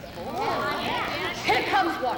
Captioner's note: women voice agreement